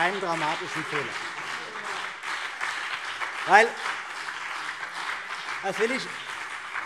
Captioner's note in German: Beifall BÜNDNIS 90/DIE GRÜNEN